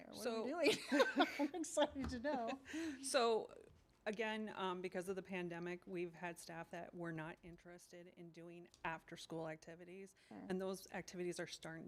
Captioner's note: laughing